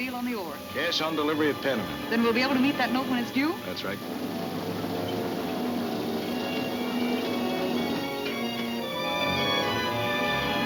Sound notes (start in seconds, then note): 3.4 dramatic music; 3.4 gears turning